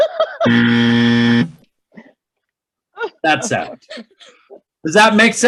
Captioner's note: loud buzzer